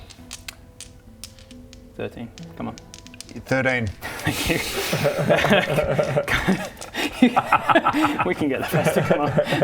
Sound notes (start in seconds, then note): 4.1 pity laugh